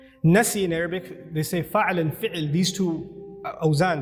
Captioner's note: Arabic